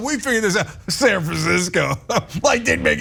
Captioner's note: laugh